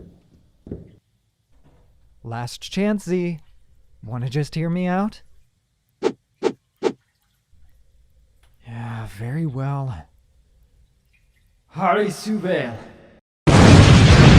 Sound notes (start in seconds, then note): 0.0 footsteps sound off; 6.4 blade swings; 8.9 disappointed sigh